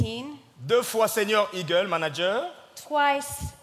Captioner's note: speaking in French